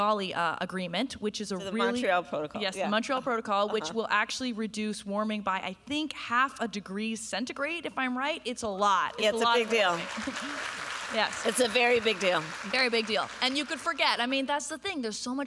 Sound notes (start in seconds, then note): 9.4 applause